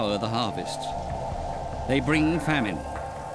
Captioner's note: howling wind